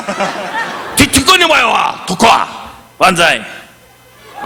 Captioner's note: participant laughing; audience laughing; Don speaking in Japanese